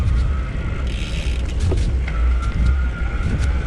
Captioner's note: wind whooshing